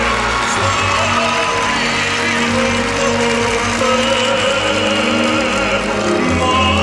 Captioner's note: applause